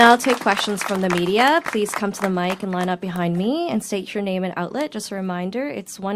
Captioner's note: applause